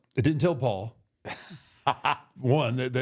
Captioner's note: Michael laughs